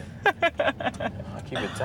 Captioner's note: laughs